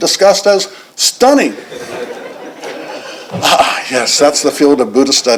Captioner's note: laughter